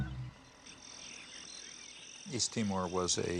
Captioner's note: insects chirring